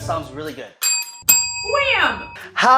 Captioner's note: bells dinging